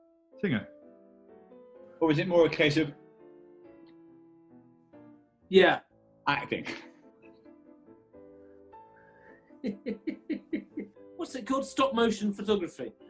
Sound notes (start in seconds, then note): 9.5 giggling